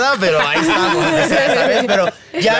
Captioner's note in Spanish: Risas